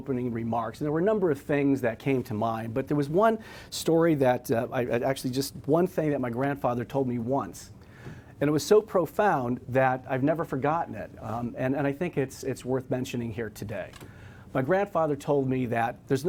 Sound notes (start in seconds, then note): none